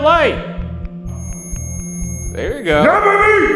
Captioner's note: REM pod screeching